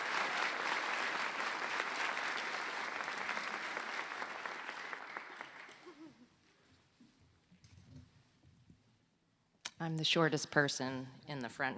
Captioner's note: applause